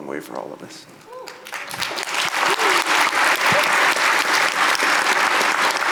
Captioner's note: audience applauding